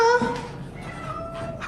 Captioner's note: cat Mews